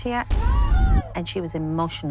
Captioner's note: yelling